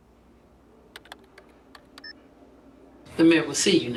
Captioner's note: keyboard keys clacking